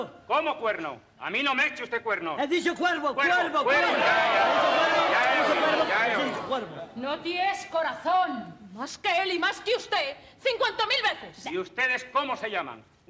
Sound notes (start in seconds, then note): 4.1 general confusion